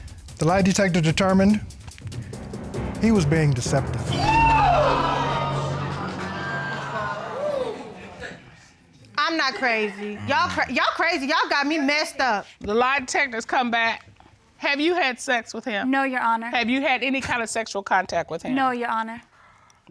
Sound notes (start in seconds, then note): 4.2 audience gasps